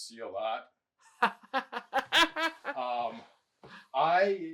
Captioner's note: laughing